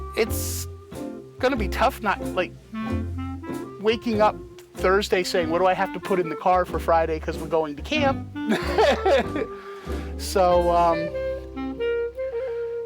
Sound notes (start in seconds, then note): 8.5 laughter